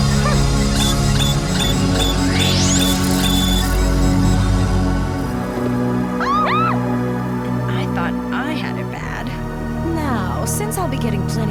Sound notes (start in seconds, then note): 1.9 beeping; 6.2 screaming